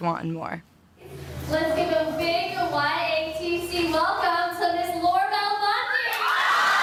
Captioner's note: screaming